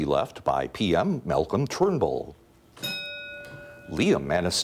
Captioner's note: ding